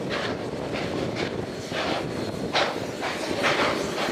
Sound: steady chugging

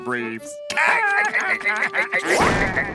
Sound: laughing

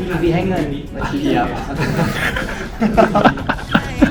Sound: laughs

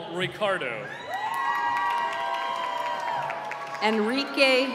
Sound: cheering

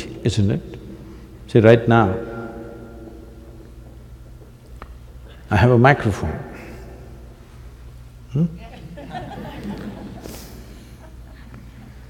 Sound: few Laugh

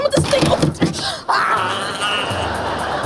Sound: laughing; growling

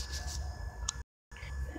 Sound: click

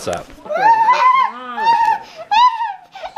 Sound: laughing

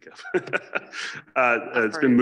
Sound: laughs

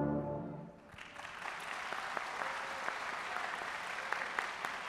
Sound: audience applauding

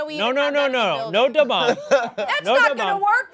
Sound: laughing

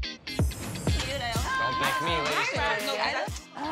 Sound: overlapping chatter

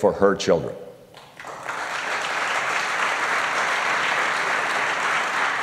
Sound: applause

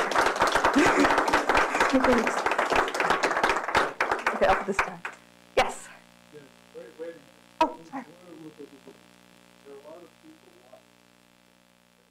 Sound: applause

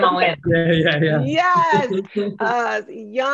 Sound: laughs

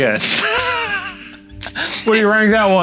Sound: laughing

